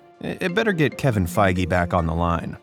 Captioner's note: phone ringing